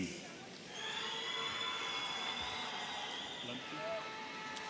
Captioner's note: audience cheering